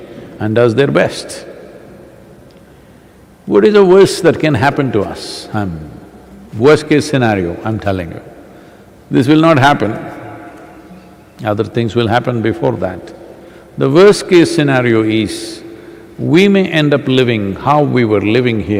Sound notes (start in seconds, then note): none